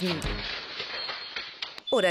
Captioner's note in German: geklapper